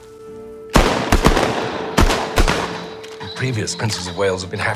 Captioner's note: gun fire